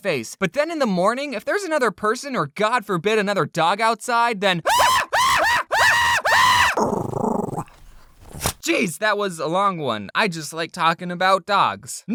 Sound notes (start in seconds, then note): 4.7 bark bark bark bark bark bark bark bark bark; 6.1 grrrrr